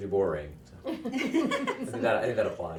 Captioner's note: others laughing